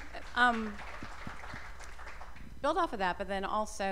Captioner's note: applause